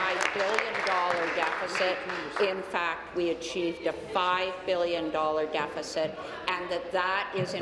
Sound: applause

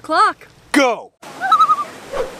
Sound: loon call

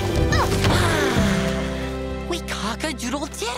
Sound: sighs

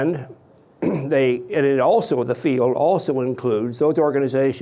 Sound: clears throat

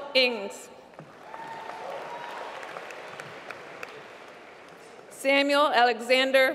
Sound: applause

